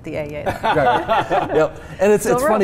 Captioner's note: laughs